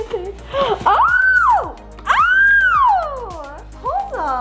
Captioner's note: exciting squealing